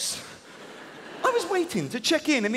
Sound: audience laughing

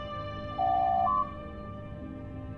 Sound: door Chime

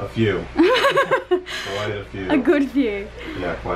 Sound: giggles

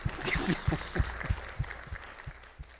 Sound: applause

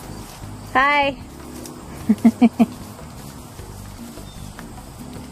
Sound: laughs

